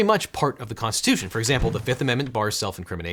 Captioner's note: paper rustling